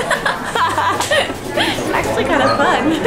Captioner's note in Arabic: كلاهما يضحك